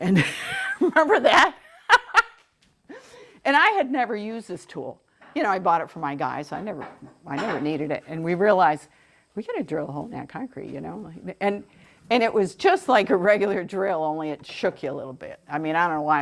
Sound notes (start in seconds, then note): 0.0 laughter